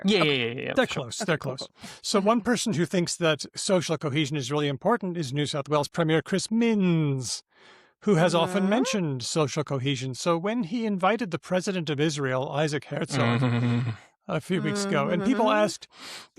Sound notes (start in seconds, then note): 13.0 groans